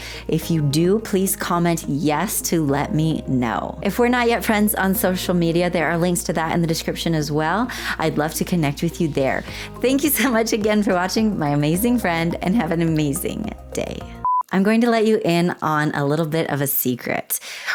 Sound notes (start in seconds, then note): 14.2 blooper beep